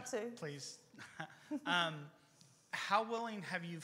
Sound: chuckles

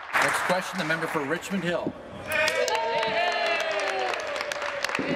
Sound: applause; applause

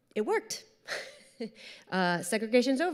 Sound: chuckles

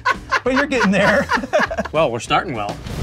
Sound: laughing

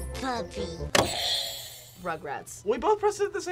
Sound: buzzer rings

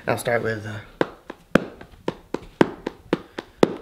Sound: hand tapping

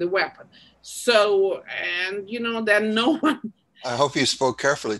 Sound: laughs

